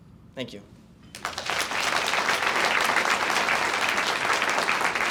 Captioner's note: audience applauds